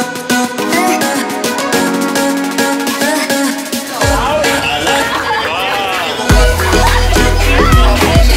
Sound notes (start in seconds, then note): 3.9 people cheering